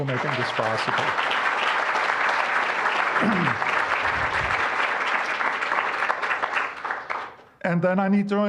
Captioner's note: applause